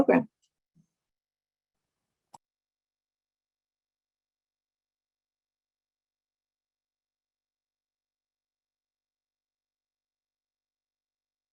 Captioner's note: silence